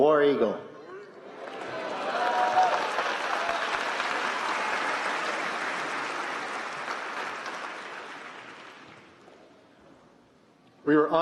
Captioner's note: applause